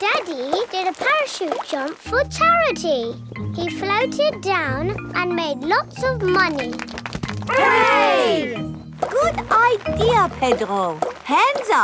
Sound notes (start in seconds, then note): 6.5 crowd applauding